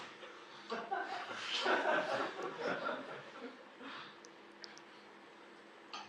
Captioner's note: audience laugh